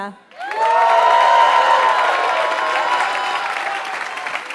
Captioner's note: applause